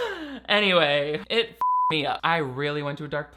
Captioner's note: beep